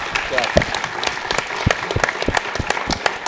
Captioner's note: applause